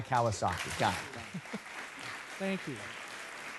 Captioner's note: applauding